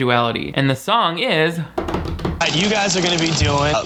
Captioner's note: imitates drum roll